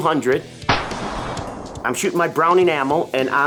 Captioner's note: rifle firing